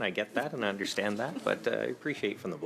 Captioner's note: speaking in French